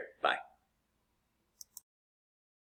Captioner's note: click